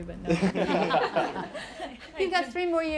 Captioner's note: laughing